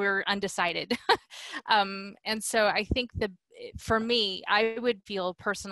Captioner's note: laughter